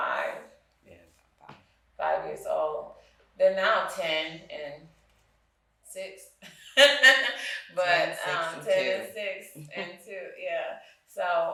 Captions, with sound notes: - Yeah, 5. - 5 years old. They're now 10 and 6. (laughing) - 10, 6, and 2. (chuckles) - But 10 and 6 and 2, yeah.